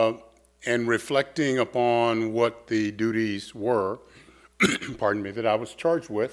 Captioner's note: coughs